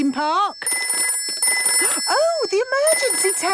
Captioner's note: phone ringing